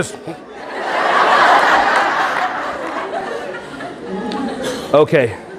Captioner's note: audience laughing